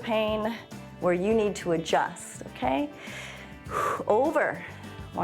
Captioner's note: inhales and exhales